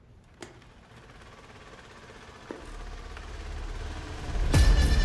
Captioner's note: Vehicle approaching